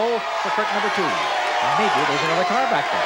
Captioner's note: audience shouting